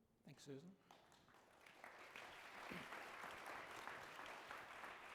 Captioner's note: audience applauding